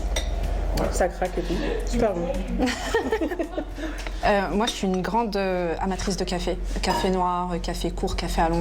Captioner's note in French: rires